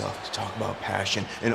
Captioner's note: crowd cheering